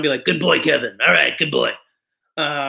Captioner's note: in Beetlejuice voice